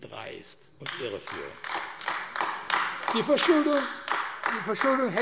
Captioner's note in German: Beifall AfD